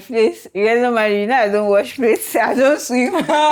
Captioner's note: laughs